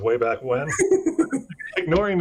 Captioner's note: laughing